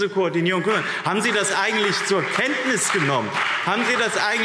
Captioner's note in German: Beifall BÜNDNIS 90/DIE GRÜNEN und CDU